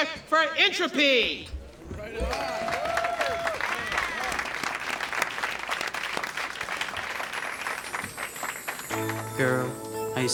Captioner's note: cheering